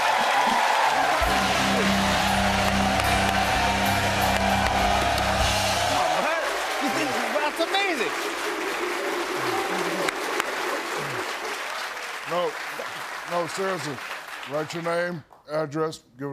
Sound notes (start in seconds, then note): 0.2 cheers and applause; 8.3 audience whooping, applause